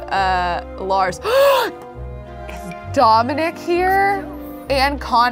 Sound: gasps

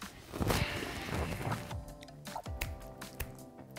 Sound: exhales

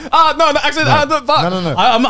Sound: stammering

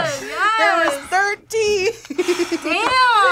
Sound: laughs

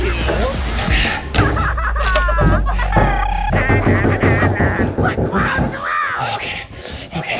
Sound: clowns making noises

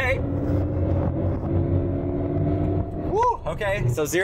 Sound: engine revving

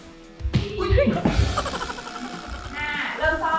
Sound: crashing

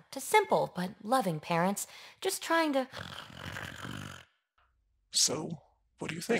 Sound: snore

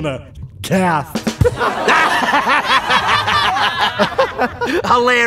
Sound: audience laughing

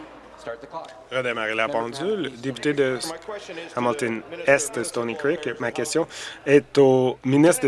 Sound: conversation din

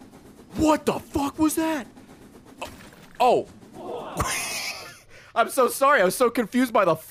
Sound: laughs

